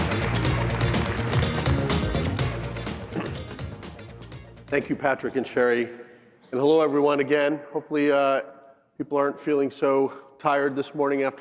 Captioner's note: applause